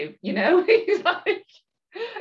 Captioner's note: laughs